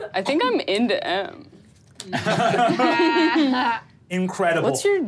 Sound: laughs

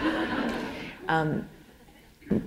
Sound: laughter

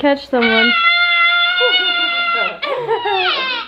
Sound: screams

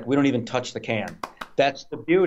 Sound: claps

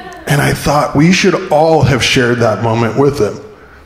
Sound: none

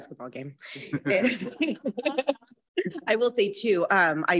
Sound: all laugh

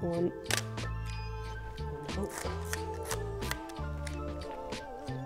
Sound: camera shutter clicks

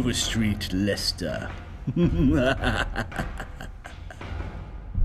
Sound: evil laugh

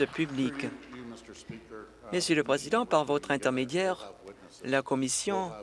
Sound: applause

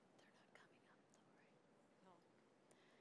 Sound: whispers

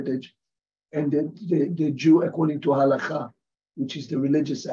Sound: hebrew

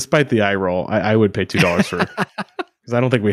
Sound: laughing

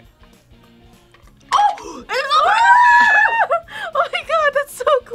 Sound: both scream

